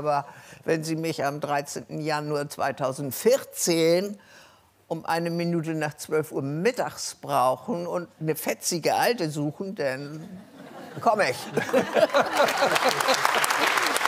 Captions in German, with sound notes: "Aber wenn Sie mich am 13. Januar 2014 um eine Minute nach zwölf Uhr mittags brauchen, und eine fetzige Alte suchen, dann ... komm ich." (Lachen)